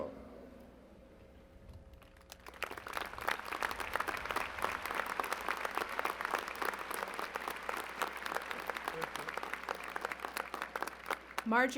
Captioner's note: applause